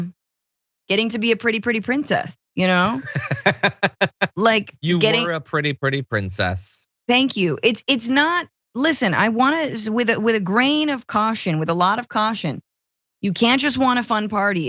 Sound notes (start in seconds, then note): 2.8 laugh